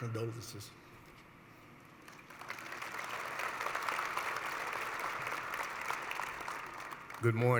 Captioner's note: applause